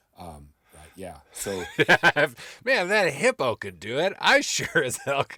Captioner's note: laughing